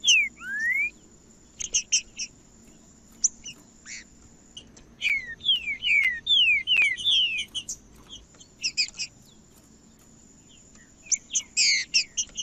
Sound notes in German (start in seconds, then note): 0.0 trinca ferro cantando; 1.3 trinca ferro cantando; 3.3 trinca ferro cantando; 5.3 trinca ferro cantando; 7.3 trinca ferro cantando; 9.3 trinca ferro cantando; 11.3 trinca ferro cantando